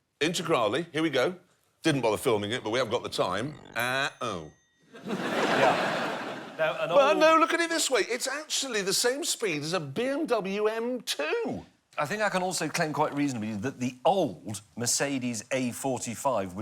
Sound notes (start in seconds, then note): 2.5 bell pings; 5.0 audience laughs